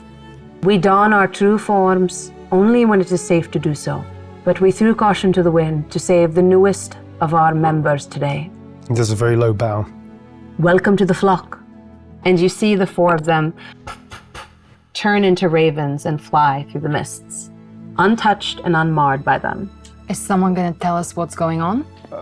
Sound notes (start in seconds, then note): 13.6 puffing air